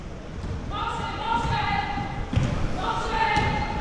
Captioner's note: athletes shouting